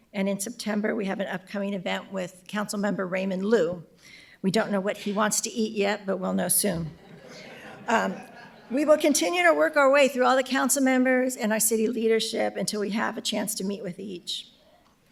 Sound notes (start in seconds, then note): 7.0 audience laughing